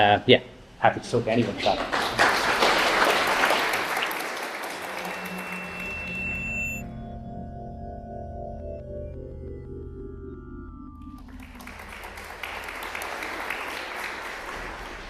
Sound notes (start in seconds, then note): 1.4 applause; 4.8 drone-like music; 11.1 applause